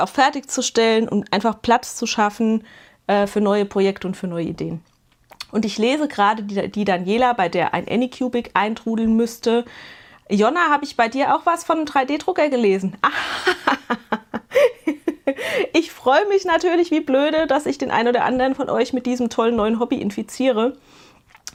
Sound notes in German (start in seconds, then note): 13.0 gelächter